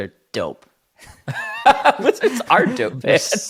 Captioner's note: laughing